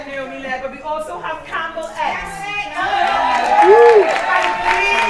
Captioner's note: cheering